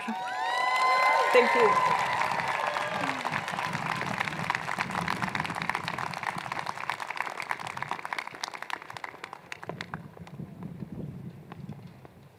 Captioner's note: cheers and Applause